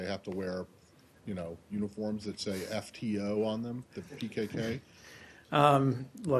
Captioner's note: laughter